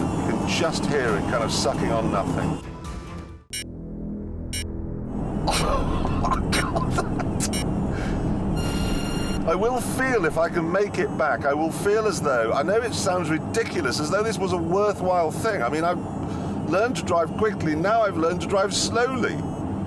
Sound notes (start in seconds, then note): 5.4 jeremy laughs